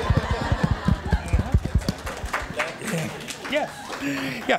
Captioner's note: audience applause